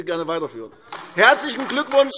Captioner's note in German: Beifall AfD